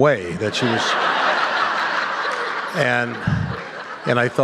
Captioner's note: laughter